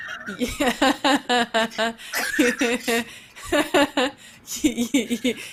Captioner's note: continues laughing; laughs